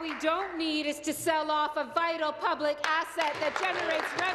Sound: applause

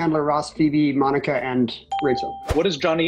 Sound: ding

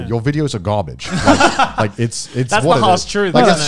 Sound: laughs

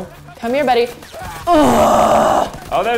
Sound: groaning

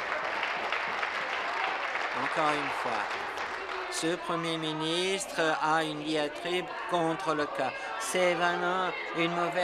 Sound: some Applause

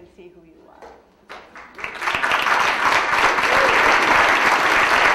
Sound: audience applauding

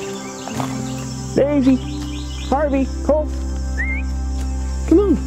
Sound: whistle

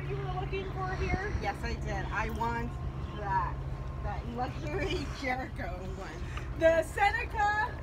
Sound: airplane noise begins to fade

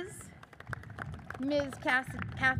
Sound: audience cheers and applauds

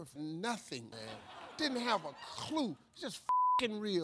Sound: beep

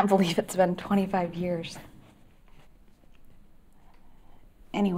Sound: none

